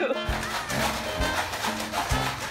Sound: rattling

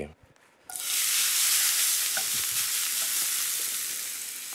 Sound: sizzling

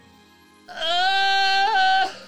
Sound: groans

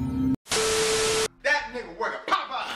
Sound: TV Static

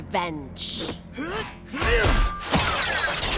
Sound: grunting

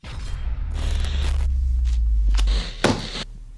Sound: static

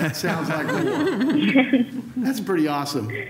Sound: laughter

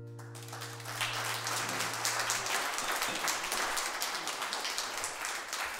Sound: applause

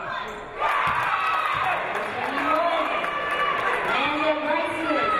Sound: audience cheering

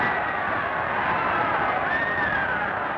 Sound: crowd cheering

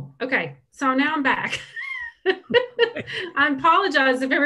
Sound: chuckles

